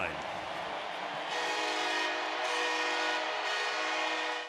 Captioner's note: cheering